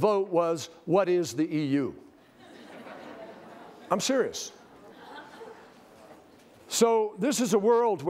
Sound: laughter

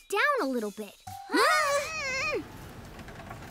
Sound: both exclaiming

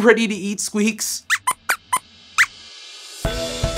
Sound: squeaks squeaks

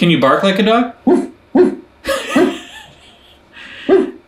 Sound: barks

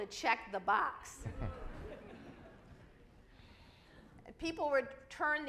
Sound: audience laughs

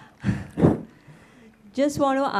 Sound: sighs

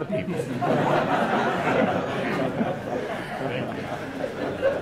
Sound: audience laughing

